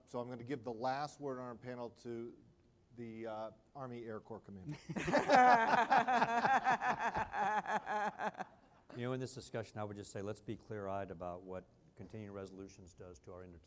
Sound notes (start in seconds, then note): 4.7 laughter